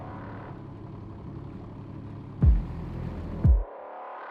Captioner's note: engine idling; drum thumping